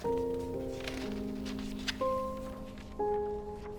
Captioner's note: turning pages